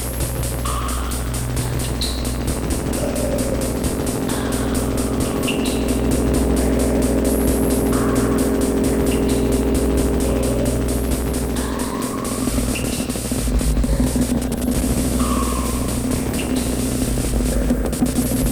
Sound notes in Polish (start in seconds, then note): 0.3 Oscylujące dudnienie nasila się i opada; 12.1 Metaliczne uderzenia wydłużają się i przerywają nieregularnie